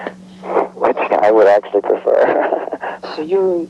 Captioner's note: laughing